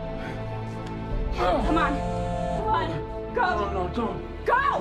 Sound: phone buzzing

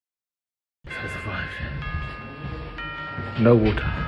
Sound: clock chiming ding don in background

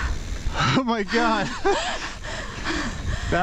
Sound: laughing

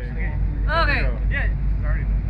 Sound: group members chattering

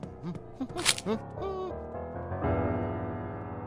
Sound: plastic crinkling

